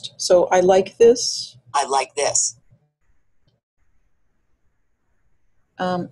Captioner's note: voiceover